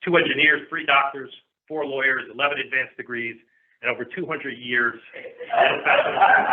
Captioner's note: laughter